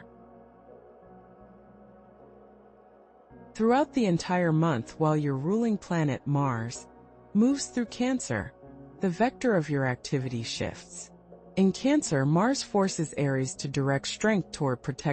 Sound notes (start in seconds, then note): 1.5 pause